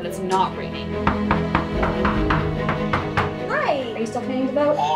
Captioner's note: knocking